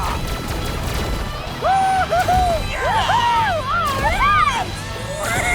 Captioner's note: cheering